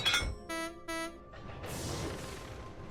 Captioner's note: philip honks horn